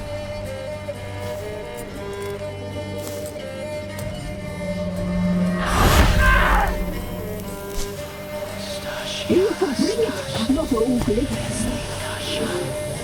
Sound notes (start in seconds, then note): 7.8 ghostly whispering